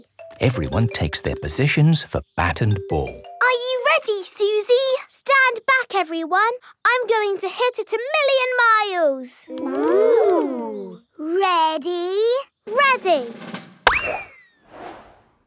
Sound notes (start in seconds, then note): 13.6 bang